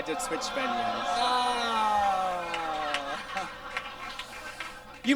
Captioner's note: audience groans